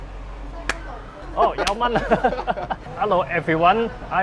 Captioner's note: in Cantonese